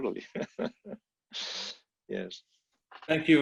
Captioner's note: laughs